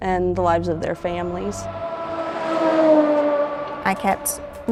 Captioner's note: truck driving down highway